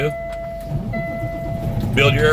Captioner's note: engine turning over; alarm beeping